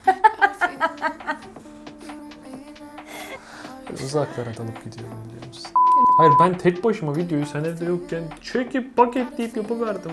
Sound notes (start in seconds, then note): 0.0 laughs